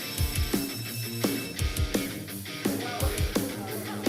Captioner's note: bell ringing